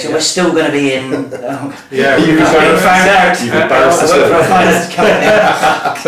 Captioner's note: laughter drowns out conversation